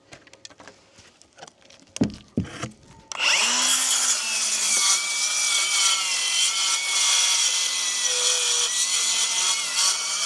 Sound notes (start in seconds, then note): 2.0 wood clunking; 3.1 saw buzzing